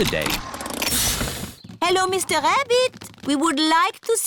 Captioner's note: engine stops